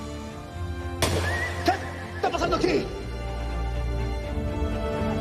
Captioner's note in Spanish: Disparo